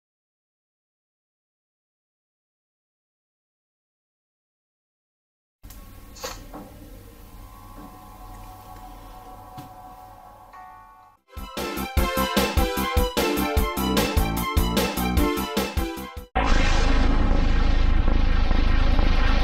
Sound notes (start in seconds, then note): 6.0 console sounds amid camera noises; 11.3 digitally-remastered video game music; 16.3 deep digital heartbeat, followed by digital piano music at the end